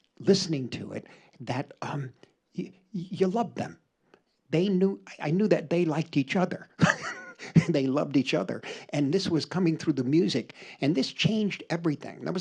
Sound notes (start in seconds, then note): 6.7 chuckles